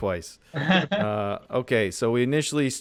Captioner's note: laughter